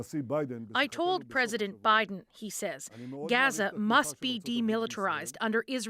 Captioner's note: speaking alternate language